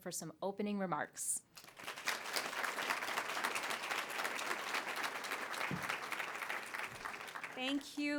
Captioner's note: applause